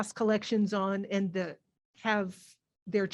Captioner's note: none